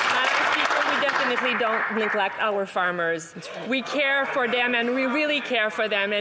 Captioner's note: some Applause